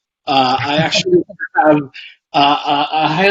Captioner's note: laughs